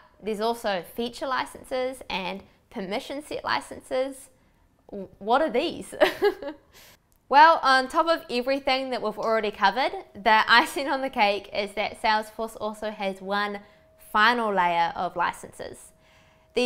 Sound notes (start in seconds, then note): 6.0 woman laughs loudly